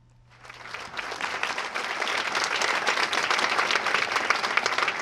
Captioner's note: applause